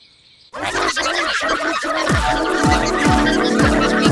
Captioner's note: contestants yell